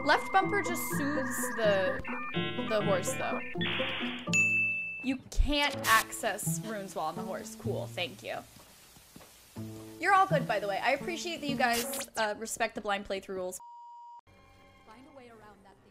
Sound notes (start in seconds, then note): 4.3 chime; 5.7 static; 13.6 beep; 14.2 tense music